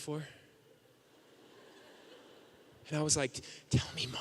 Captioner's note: audience laughing